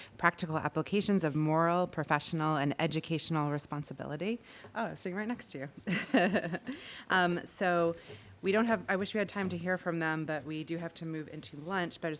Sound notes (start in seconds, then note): 5.9 laughs